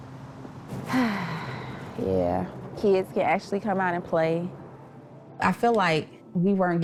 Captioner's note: sighs